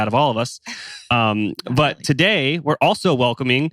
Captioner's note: laughs